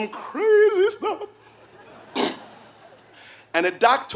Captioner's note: laugh